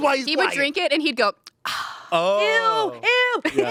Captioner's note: sighs